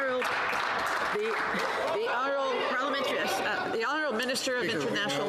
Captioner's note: some Applause